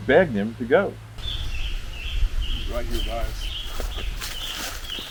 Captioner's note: bird chirping